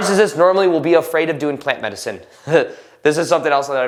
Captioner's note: laughs